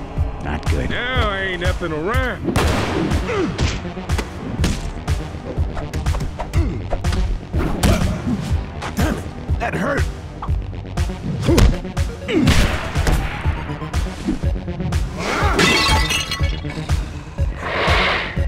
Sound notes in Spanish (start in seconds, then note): 15.6 tumba rompiéndose